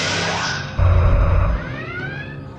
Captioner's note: phaser fire